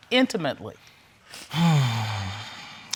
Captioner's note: sighs